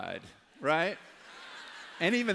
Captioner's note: laughter